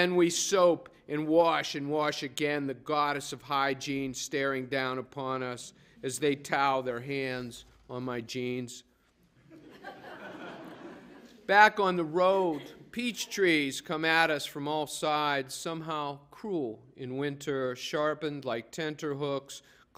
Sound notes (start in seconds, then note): 9.4 laughter